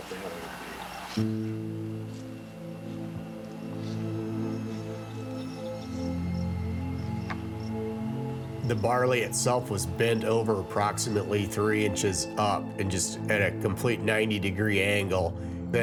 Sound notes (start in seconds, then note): 2.5 tractor engine rumbling